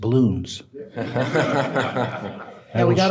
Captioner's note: audience laughing